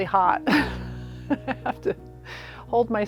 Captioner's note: laugh